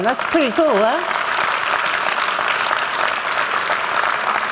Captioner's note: applause